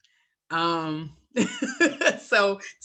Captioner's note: laughter